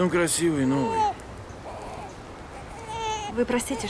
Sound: baby cries

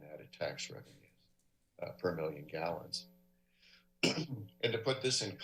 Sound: clears throat

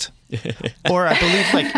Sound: laughs

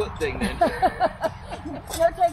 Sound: laughing

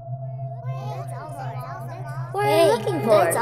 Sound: disembodied voices chatter

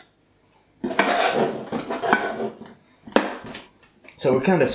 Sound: scrape scrape

